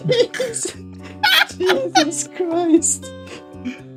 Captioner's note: laughing